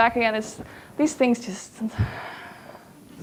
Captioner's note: exhale heavily